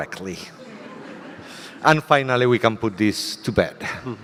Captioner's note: audience laughter